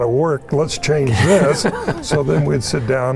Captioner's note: participants laughing